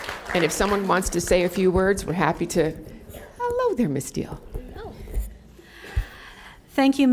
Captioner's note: applause